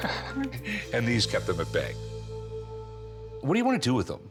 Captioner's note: chuckles